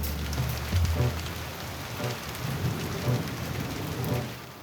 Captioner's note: rain